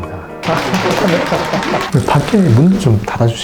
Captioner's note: clap Clap Clap